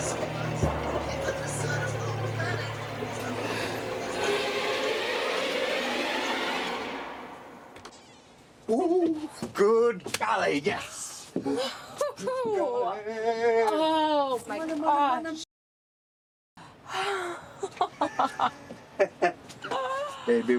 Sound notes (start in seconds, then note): 8.1 door creaks; 11.8 Farrah laughs; 17.1 Farrah laughs; 17.6 Billy Ray laughs